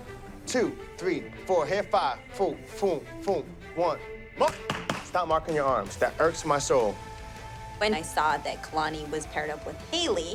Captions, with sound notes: 2, 3, 4, hey, 5. Fung, fung, fung, one. [exclaims] Stop marking your arms. That irks my soul. When I saw that Kalani was paired up with Haley,